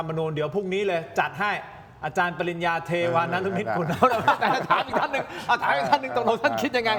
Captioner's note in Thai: เสียงหัวเราะ